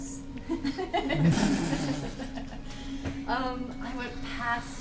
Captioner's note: all laugh